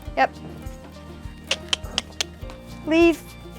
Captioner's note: clicks tongue